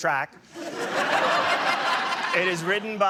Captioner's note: laughter